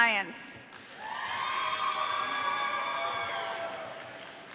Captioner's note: audience cheering